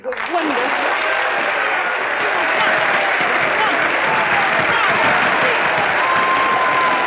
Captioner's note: applauding; cheering